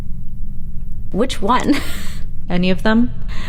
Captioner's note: chuckles